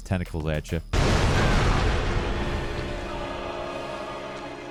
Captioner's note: tentacles slam